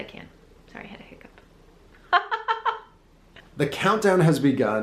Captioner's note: laughs